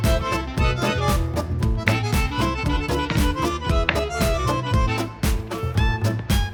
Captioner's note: chef’s kiss